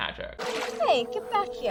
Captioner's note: water splashes